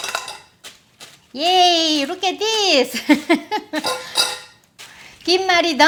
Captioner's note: laughing